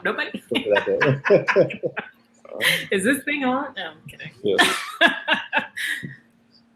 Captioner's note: laughter